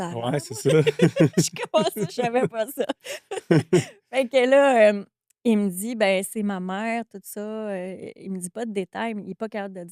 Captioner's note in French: rires